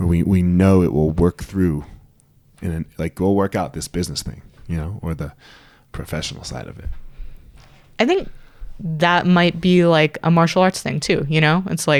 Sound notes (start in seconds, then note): none